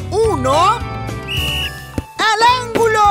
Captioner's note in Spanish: Sonido de silbato